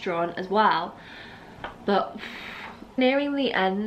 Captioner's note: deep breath out